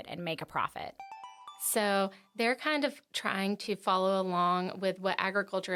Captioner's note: chime